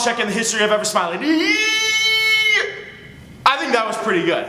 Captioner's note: silly noise